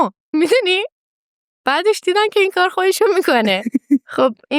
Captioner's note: laughs